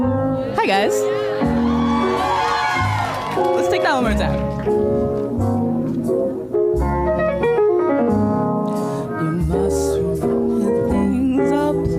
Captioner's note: applause